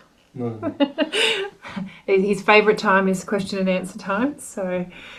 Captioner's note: off screen laughs